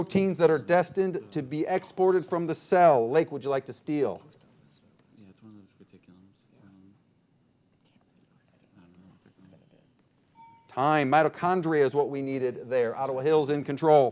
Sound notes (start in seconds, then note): 8.5 players murmuring; 10.3 bell dinging